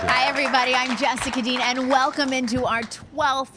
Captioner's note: applause